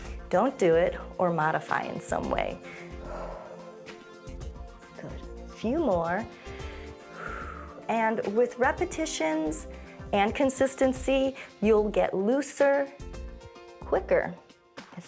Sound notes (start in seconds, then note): 2.6 exhales; 6.3 inhales and exhales